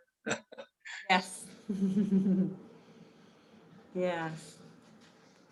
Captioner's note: giggles